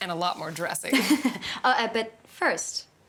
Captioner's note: Siena chuckling